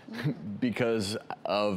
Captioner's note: chuckles